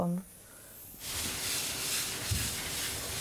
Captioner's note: air blast sound